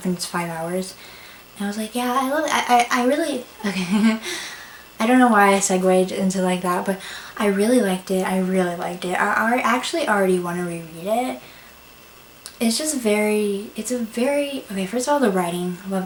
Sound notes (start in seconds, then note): 3.5 laughs